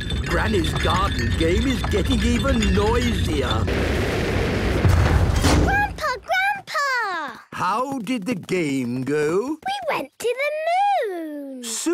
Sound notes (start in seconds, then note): 4.7 thuds